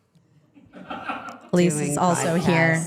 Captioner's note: crew laughing